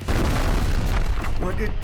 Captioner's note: explosion